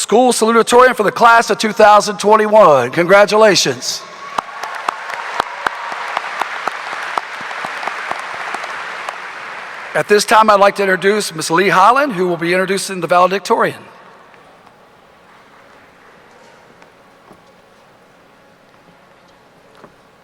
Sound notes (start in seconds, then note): 4.0 audience cheering; 4.2 audience applauding